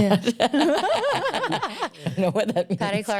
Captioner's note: laughter